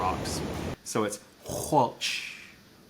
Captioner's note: speaking in Lushootseed language